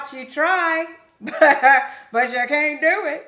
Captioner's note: laughs